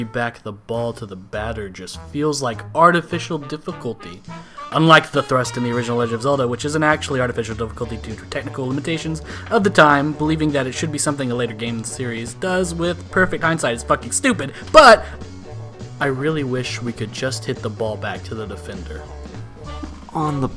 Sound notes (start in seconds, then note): 9.2 breath